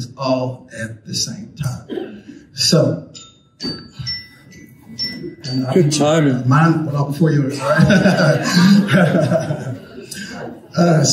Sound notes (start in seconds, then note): 3.0 alarm chiming; 7.4 all laughing